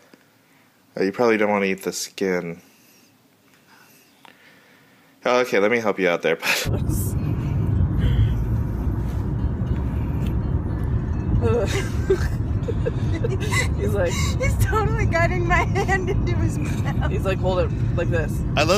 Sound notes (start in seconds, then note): 16.8 laughing